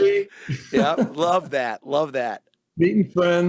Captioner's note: laughs